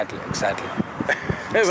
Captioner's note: laughs